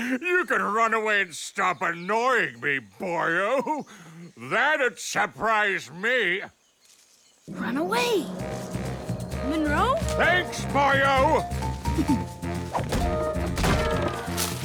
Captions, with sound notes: YOU COULD RUN AWAY AND STOP ANNOYING ME, BOYO! THAT'D SURPRISE ME! RUN AWAY! MUNROE? THANKS, BOYO! (GIGGLES)